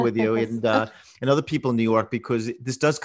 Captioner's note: laughs